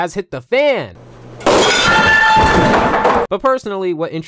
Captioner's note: loud crashing